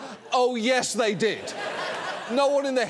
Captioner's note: audience laughs